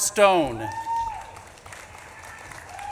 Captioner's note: audience claps and cheers